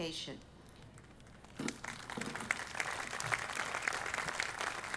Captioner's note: audience applauding